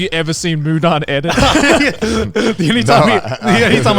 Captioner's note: laughing